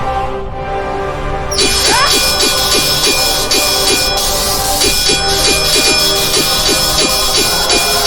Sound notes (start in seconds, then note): 1.6 electricity crackling; 1.7 swords clanging